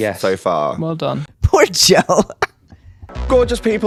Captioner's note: laugh